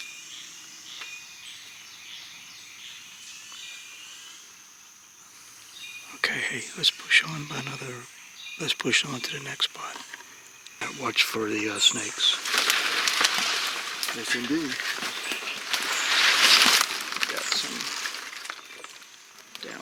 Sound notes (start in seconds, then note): 0.1 birds and bugs chirping; 13.0 dry leaves and plants rustling loudly